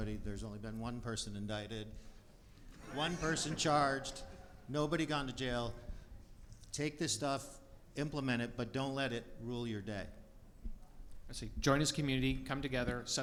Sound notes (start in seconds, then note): 2.6 audience laughs